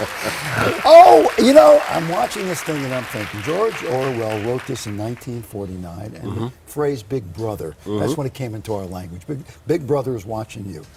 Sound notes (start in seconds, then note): 3.5 applause